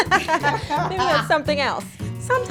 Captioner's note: laughter